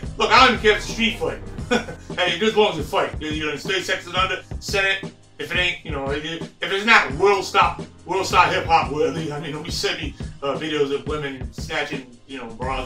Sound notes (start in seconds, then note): 1.7 laughs